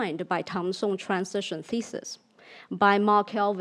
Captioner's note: speaks in foreign language